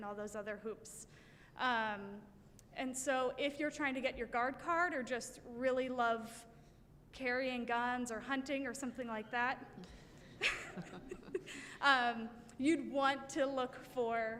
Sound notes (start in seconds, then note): 9.8 chuckling